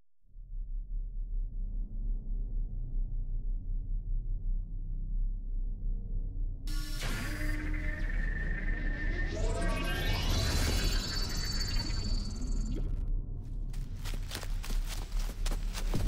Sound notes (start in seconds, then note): 0.2 intense music; 6.7 static buzzing; 13.7 footsteps pattering